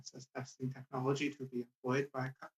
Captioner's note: speaking Indigenous Language